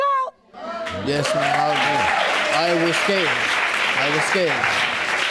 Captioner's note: audience applauding